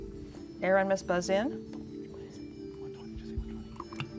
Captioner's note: whispering